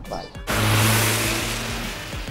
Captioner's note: Van speeding